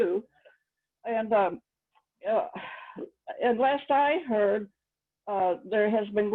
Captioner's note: sighs